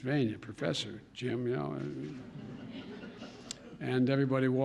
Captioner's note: laughter